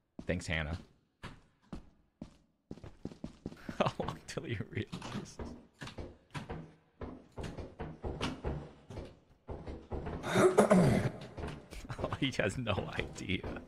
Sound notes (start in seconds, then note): 10.2 clears his throat